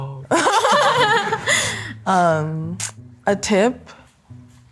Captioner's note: pair laughing